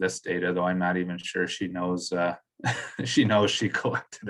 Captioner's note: chuckles